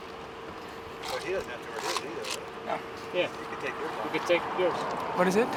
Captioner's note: team chattering